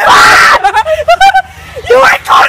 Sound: laughs

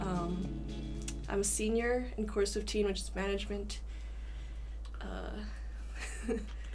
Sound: chuckles

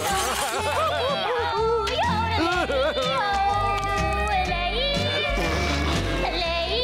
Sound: crying

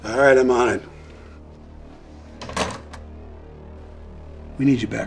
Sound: dramatic music; phone clacking

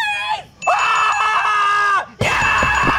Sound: screaming

